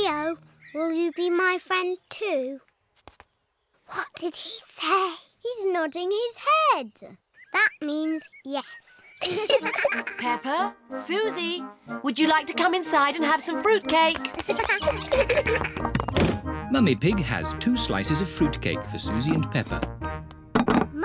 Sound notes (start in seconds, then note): 3.9 whispering; 9.2 both giggle; 14.1 both giggle